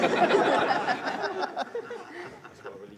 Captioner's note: laughter